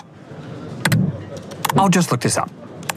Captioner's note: clicks